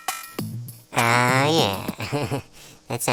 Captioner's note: chuckle